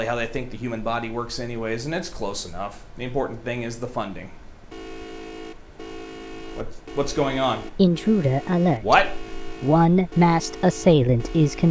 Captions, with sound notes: how they think the human body works, anyways. And it's close enough. The important thing is the funding. - [beeping] - What's going on? - Intruder alert. - What? - One masked assailant is